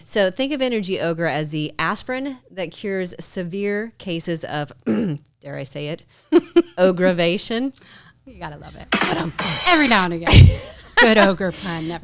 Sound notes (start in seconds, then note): 4.8 throat clears; 8.4 drums; 8.9 laughs